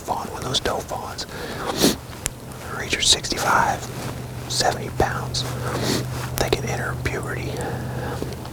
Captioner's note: whispering